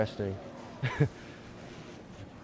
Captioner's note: laughs